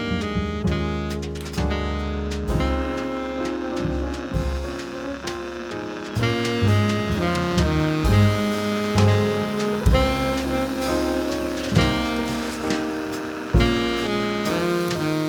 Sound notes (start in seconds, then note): 3.9 machine whirring; 8.3 calm music continues